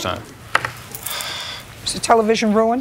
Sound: sighs

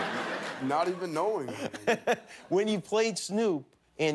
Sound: laughter

